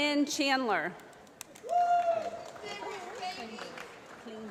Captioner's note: applause